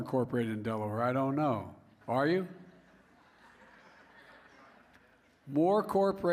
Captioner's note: laughter